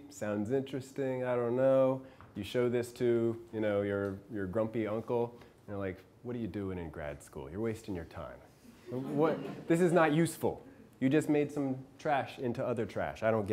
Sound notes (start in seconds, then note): 8.9 class laughing